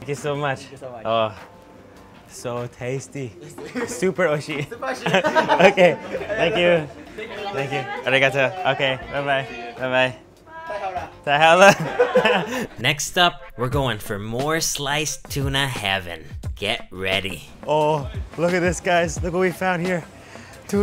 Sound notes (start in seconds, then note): 4.5 laughs; 8.1 speaking in Japanese